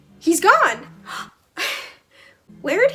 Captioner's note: gasp